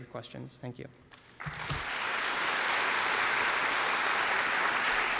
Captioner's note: applause